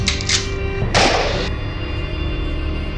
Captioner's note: rifle cocks; gunshot